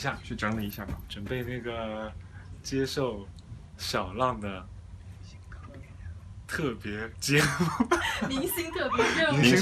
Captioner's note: laughs